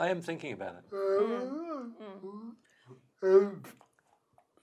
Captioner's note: murmurs